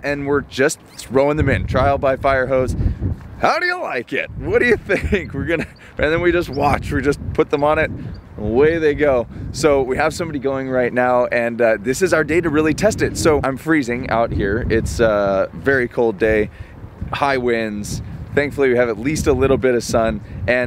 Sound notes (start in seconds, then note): 4.6 chuckles